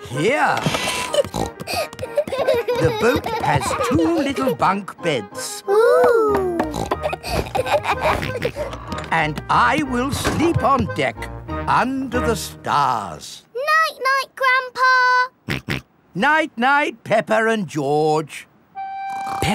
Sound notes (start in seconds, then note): 0.8 snorting; 1.6 kids giggling; 6.6 snorts, laughs; 15.5 snorts